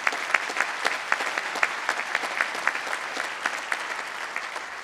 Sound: applause

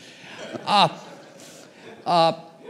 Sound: laughter

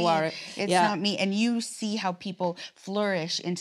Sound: laughs

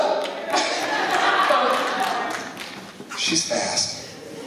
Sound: laughter

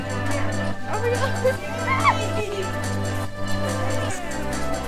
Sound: shrieks

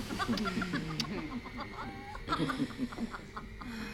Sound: rosalyn & kibwe chuckling

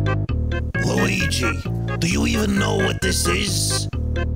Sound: Lou Albano Mario voice

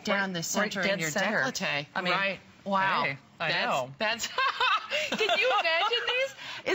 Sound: laughter

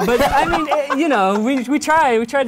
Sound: laughs

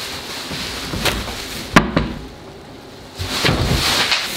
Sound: cabinet door bangs

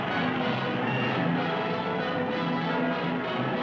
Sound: crowd cheering

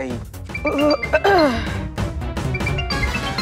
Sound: clears throat

